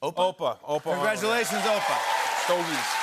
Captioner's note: cheers and applause